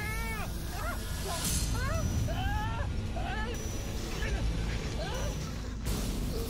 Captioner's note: shouting